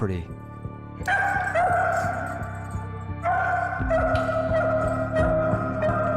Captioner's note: Breeze barking